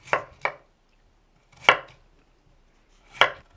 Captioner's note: knife chopping